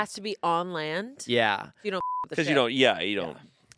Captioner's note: beep